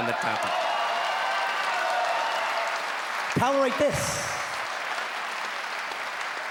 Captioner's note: cheering